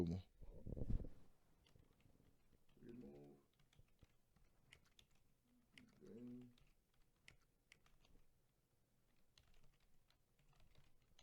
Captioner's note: typing